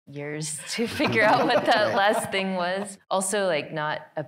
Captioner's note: all laughing